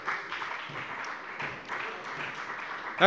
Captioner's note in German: Beifall bei der FDP und bei Abgeordneten der SPD